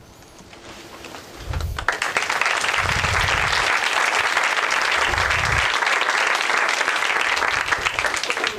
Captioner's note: applause